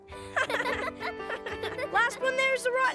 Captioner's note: laughing